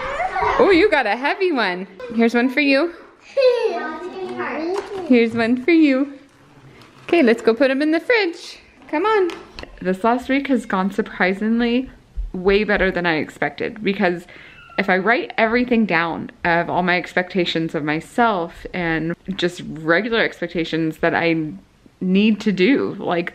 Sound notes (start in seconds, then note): 0.0 children chattering; 3.4 child babbles